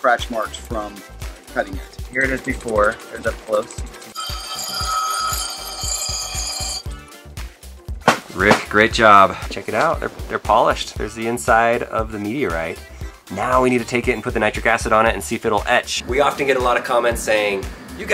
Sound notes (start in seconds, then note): 2.3 voiceover; 4.7 machine whining